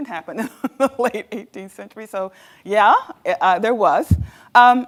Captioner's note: laughs